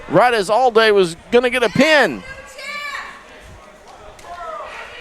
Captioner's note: crowd cheers